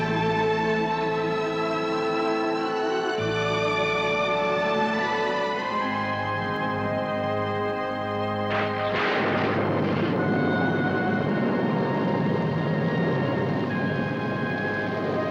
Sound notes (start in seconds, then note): 5.9 distant rumble; 8.4 thunder crashes